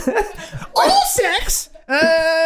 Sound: Charlie High Pitched

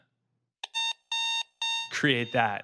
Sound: alarm buzzer

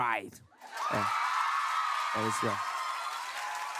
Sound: cheering

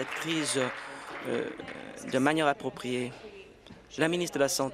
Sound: applause

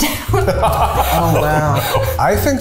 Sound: laughs

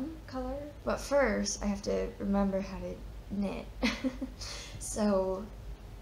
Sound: laughs

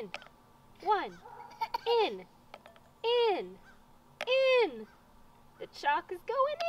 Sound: toddler laughs

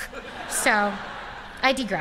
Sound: laughter

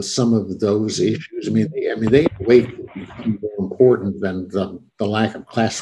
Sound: audio distorts

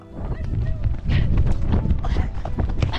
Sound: running noise

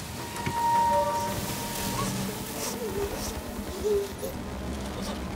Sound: Hannah gasping and sobbing

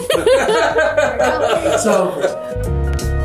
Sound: everyone laughs; cheery piano music

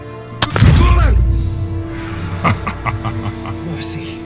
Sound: dramatic music; groaning; Dagon laughing

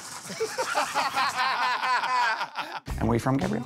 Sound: laughter

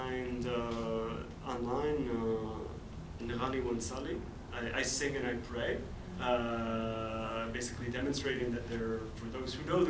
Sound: arabic

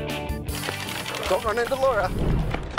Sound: card flaps

